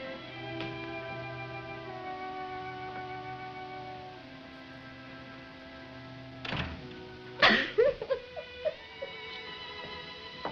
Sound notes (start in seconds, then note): 6.3 door closes; 7.4 sobs